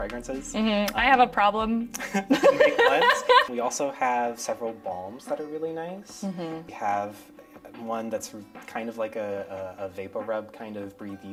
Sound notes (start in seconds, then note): 2.0 both laugh